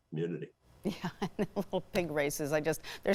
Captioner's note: laughing